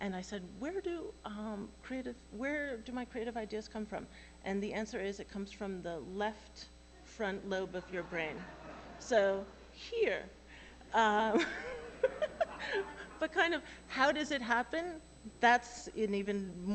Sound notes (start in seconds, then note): 11.3 laughter